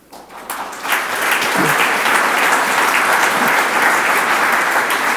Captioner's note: audience applauds